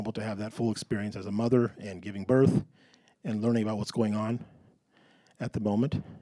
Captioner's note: none